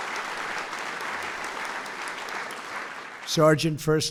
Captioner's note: applause